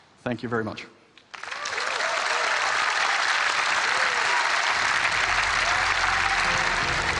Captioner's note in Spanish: Aplausos